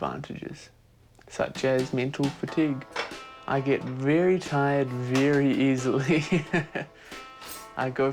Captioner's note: laughs